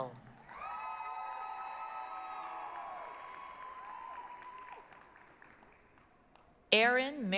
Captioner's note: applause, cheering